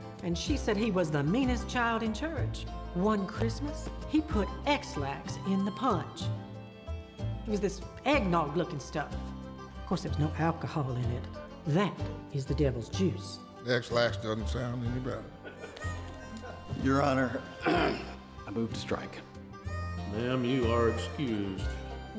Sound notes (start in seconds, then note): 15.4 court chuckling; 17.6 clears throat